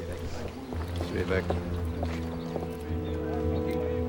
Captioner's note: group chattering